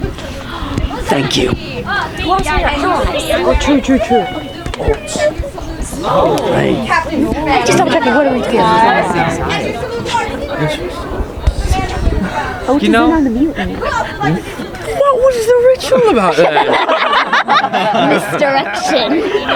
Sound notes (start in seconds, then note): 1.8 people chattering; 11.0 people chattering; 15.9 audience laughing